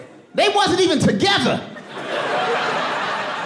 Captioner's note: audience laughing